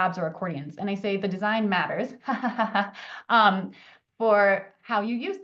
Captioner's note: laughs